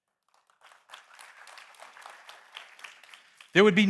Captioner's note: applause